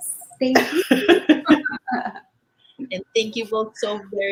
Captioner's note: laughing